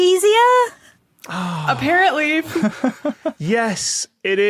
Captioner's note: sighs